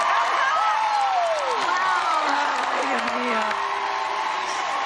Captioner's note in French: speaking Spanish